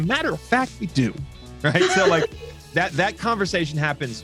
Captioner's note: woman laughing